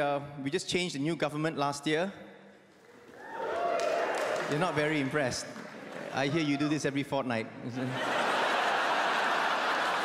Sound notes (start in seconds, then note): 3.1 audience cheers